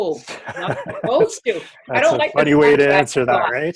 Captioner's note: laughs